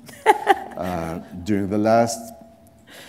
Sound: laughter

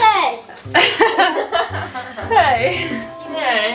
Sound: laughing

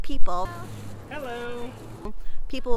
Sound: car driving

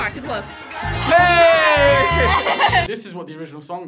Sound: laughs

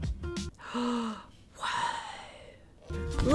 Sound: gasps

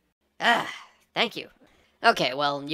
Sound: cry of exasperation

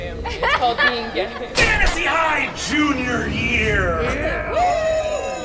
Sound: everyone laughs; locker smacks

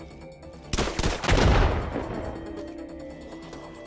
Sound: gun fires

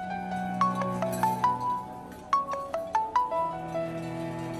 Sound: mobile ringing

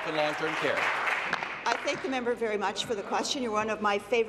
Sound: applause

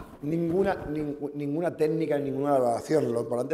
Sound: speaking spanish

